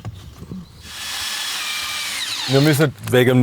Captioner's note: whirring